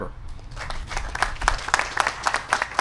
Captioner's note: applause